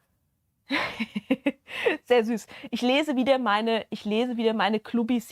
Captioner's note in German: gelächter